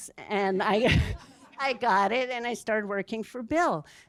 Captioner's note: laughs